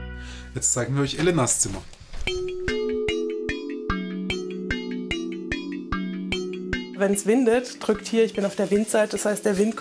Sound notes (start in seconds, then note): 2.2 mystical sounds